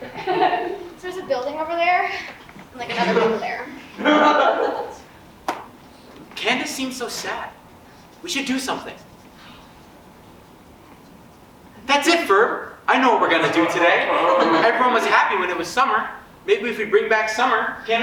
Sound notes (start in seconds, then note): 3.9 audience laughs